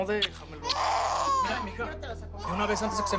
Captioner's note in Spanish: Llanto del bebé